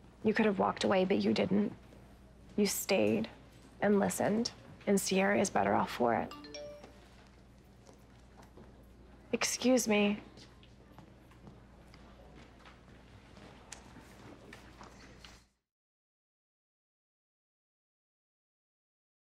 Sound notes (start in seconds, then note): 6.2 cellphone chimes